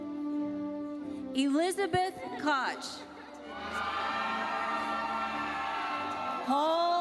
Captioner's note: audience cheers